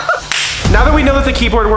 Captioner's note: laughs; high five slaps